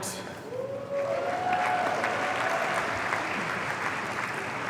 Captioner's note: audience cheering